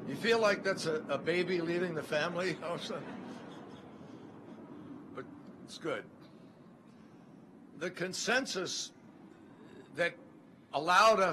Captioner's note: laughter